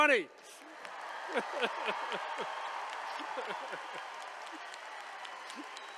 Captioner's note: all applauding and cheering